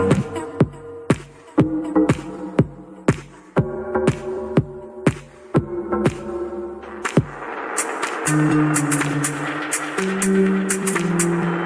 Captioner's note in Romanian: Aplauze